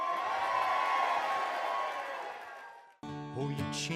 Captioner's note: cheering